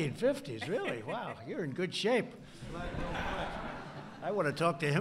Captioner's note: laughter; laughter